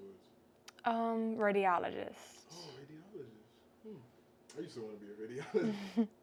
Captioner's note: laughs